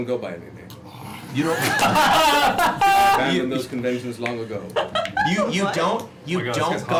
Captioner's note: laughter